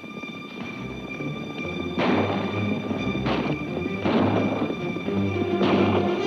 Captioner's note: hooves clomp; guns bang